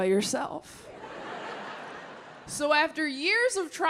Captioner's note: audience laughing